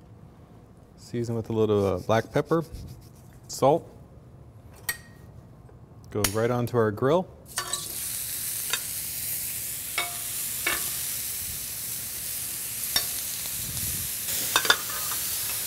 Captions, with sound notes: Seasoned with a little black pepper, salt.... Goes right onto our grill.... [sizzling sounds]